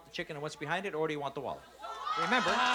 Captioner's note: shouting